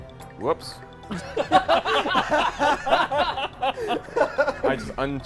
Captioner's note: laughter